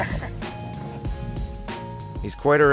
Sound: laughs

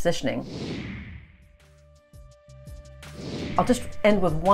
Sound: air whooshing

